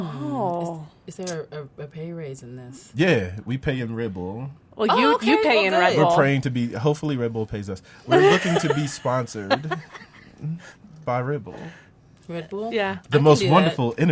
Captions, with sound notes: - Is there a pay raise in this? - Yeah, we pay you in Red Bull. - Oh you pay in Red Bull. - We're trying to be hopefully Red Bull pays us, we are looking to be sponsored (laughs) by Red Bull. - Red Bull? - Yeah.